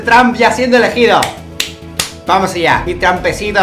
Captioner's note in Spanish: palmadas